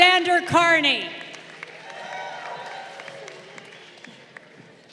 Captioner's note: crowd cheering